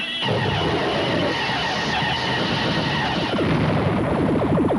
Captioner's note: beam firing